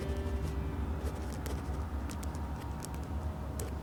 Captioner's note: pen scribbles